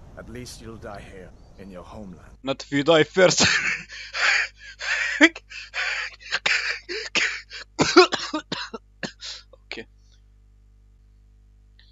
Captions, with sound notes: Not if you die first (idk at this point if it's laughter or soul extraction) Ok